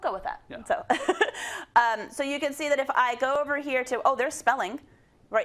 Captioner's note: laugh